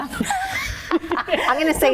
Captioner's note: laughs